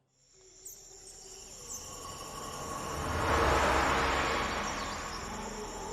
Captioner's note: birds chirping; bugs trilling